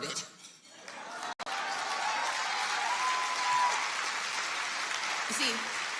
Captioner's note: audience cheers and applauds